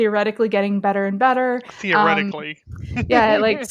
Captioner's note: laughs